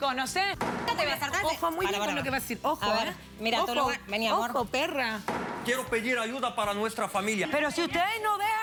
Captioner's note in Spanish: Comentarios al unísono